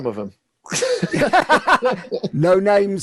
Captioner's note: laughing